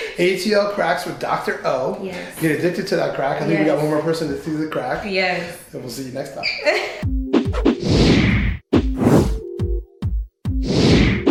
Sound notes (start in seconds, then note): 7.5 swooshing